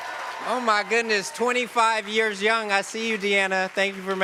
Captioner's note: cheers & applause